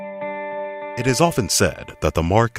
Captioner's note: quiet music; voiceover